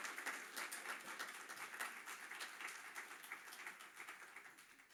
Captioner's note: applause